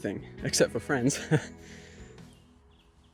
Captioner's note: chuckles